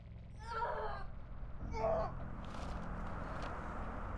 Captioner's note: child groaning; papers fluttering; wind howling